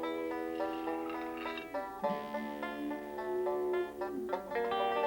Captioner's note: chalk scraping wall